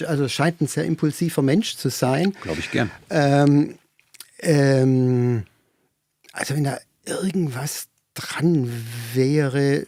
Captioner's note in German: räuspern